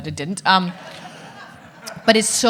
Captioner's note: audience laughing